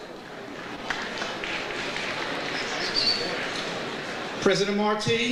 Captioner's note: audience applauds